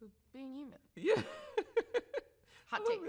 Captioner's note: laughs